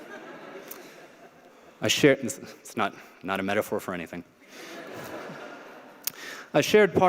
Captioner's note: laughter